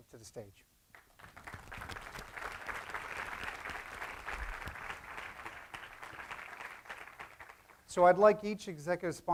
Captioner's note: applause